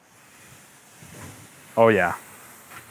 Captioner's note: steak sizzles